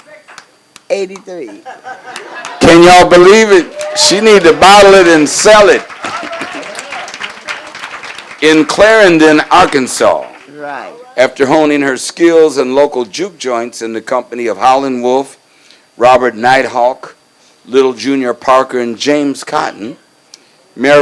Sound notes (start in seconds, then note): 2.3 crowd cheers; 6.6 crowd applauds